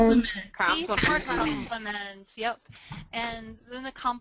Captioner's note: voiceover